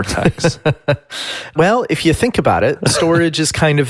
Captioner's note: laughs